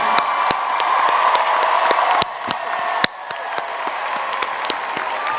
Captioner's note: crowd cheering and clapping